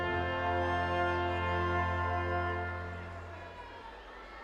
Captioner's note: audience cheering